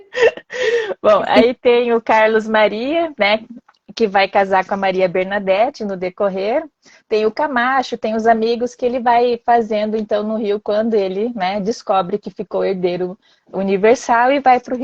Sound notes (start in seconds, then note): 7.5 laughs